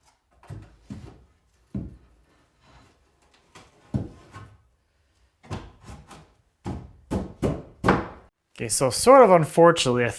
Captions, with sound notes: (fist pounding) Okay, so sort of unfortunately,